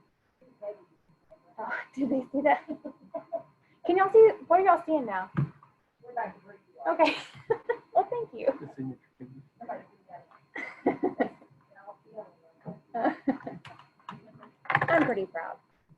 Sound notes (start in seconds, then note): 3.6 laughing; 7.0 laughing; 10.5 laughing